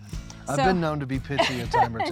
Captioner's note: chuckling